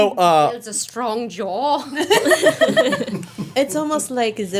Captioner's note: everyone laughing